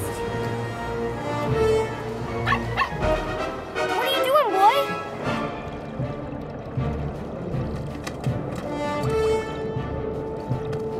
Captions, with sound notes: [barking] What are you doing, boy?